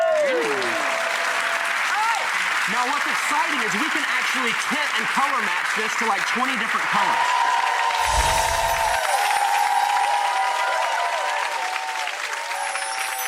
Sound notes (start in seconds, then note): 0.2 applause; 7.5 audience cheering and applause